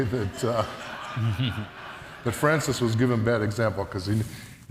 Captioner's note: audience laughs